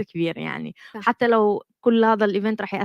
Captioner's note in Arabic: لغة أجنبية